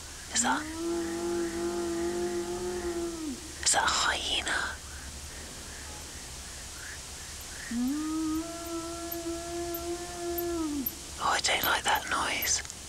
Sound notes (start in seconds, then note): 0.4 yowling continues; 3.6 sustained yowl; 11.1 yowling continues